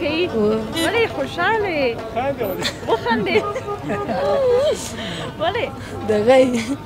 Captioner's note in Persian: خنده